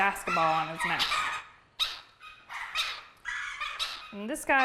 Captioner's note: bird squawking